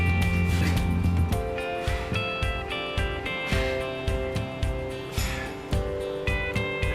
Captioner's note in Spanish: respirando fuerte